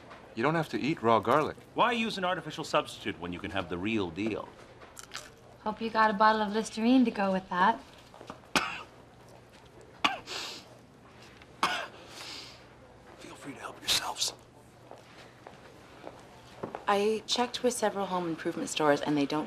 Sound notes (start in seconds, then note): 8.5 coughing; 11.6 coughing/ sniffing; 11.9 wheezing